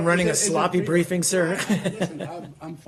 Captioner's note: laughter